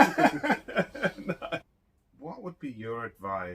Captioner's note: laughs